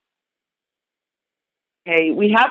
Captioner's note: silence